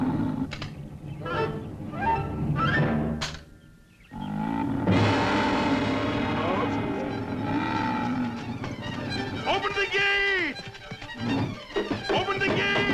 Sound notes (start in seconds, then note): 2.3 clicking; 4.1 growl